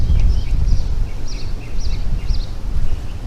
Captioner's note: birds chirping